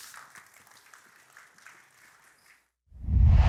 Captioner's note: applause